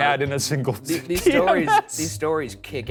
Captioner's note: laughing